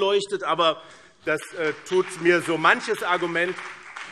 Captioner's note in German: Beifall BÜNDNIS 90/DIE GRÜNEN